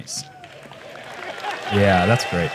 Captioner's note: applause